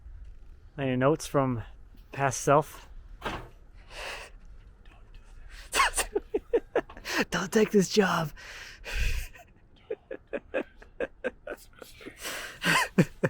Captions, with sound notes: Any notes from past self. (laughs) Don't take this job. - Don't do it, it's a mistake.